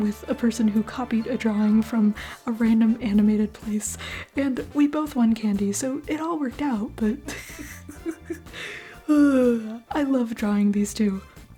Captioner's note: laugh